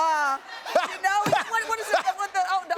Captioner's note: laughs